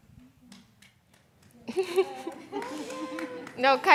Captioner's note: audience claps